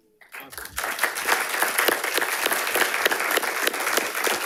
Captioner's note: audience applauding